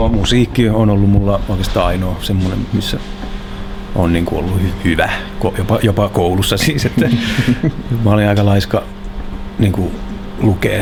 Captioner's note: laughs